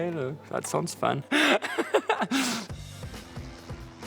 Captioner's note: laughs